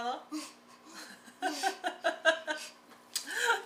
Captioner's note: both laughing